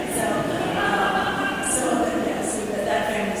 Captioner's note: chuckling